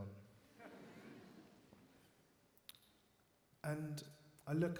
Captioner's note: audience laughs